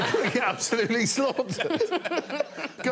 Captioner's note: all laughing